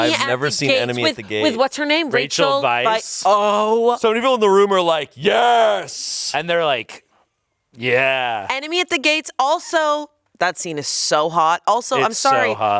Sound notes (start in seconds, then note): none